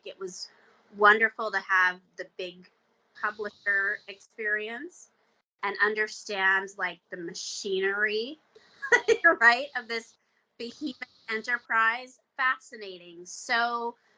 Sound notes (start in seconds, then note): 8.8 chuckling